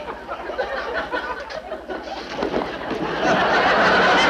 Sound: audience laughs

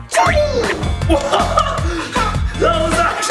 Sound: laughs

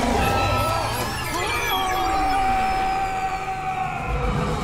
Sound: screaming

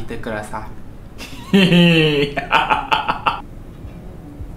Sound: evil laugh

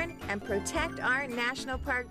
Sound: chiming

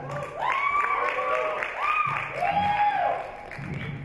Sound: audience cheer

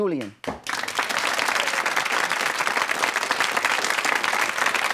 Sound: audience claps

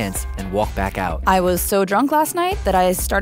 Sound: voiceover

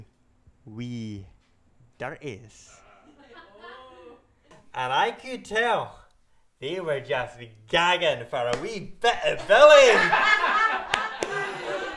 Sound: laughter

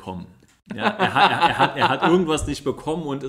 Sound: laughs

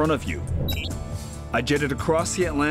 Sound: electronic beep

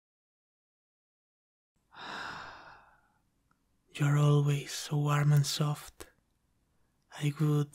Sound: sighs in contentment

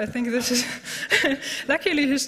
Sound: laughter

